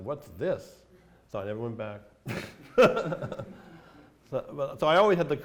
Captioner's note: laughs